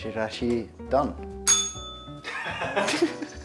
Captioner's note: bell rings; laughs